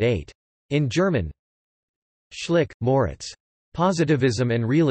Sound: in German

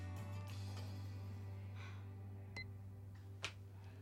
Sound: beep

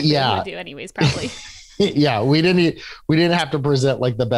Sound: laughs

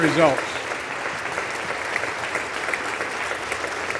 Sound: applause

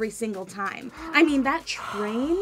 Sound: gasps

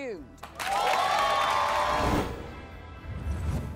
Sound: cheers

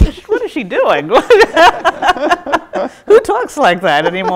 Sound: both laughs

